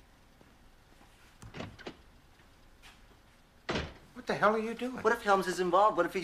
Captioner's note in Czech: Dveře se otevřou a zavřou